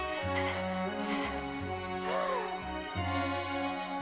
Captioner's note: Mrs. Beaver gasps